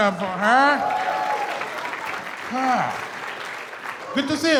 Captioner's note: audience cheers and applauds